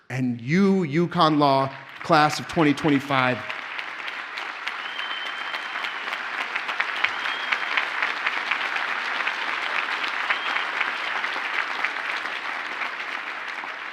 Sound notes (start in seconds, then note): 3.6 audience cheers and applauds